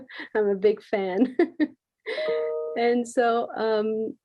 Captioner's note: laughs